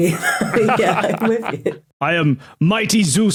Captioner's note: laughs